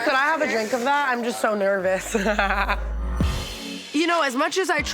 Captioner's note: laughs